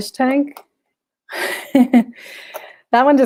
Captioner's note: chuckles